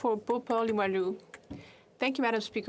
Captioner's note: speaking French